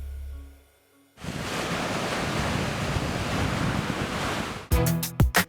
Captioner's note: waves crashing